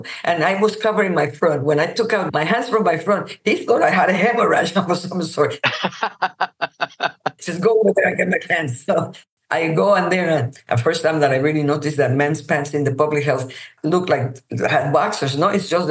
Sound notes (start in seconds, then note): 5.6 laughs